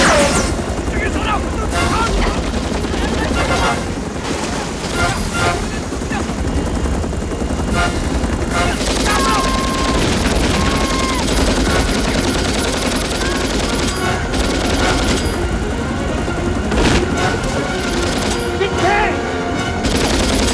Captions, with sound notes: [ Korean ] [ Shouting In Korean ] [ Shouting In Korean ] MIN ! MIN ! [ Shouts ] GET KANG !